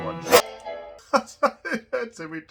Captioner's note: laughing